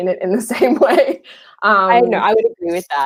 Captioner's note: laughing